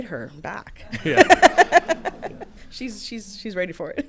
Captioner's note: all laughing